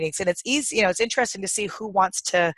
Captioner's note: none